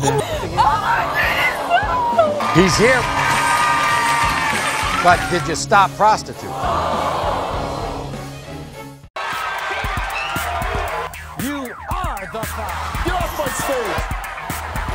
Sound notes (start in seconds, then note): 2.1 audience applauding; 3.2 cheering; 6.4 audience screaming